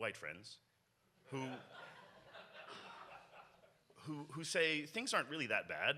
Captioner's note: audience laughs